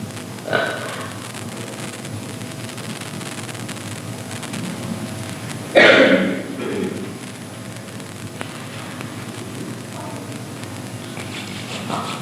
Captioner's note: chuckles